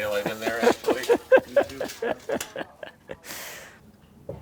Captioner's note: laughing